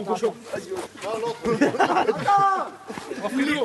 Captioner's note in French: Rires